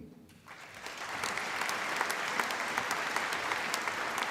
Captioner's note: applause